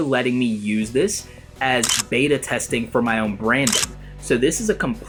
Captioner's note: camera clicking